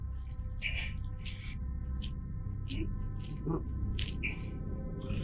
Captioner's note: chains rattling